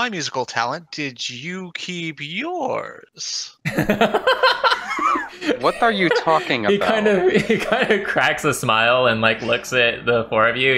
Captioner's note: laughter